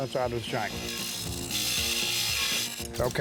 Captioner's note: metal sparking